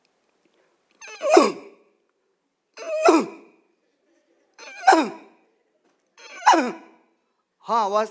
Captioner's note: makes the sound of a bear's cry